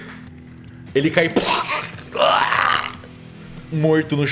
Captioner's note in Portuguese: Argh